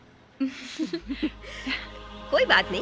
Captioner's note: softly Laughing